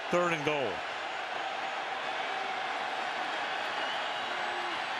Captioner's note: crowd clamoring